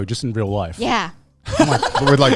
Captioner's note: laughing